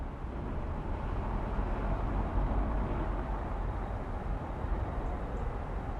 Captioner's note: traffic noise